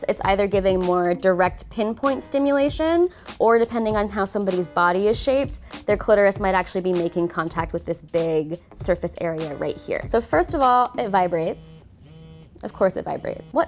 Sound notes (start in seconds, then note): 11.6 vibration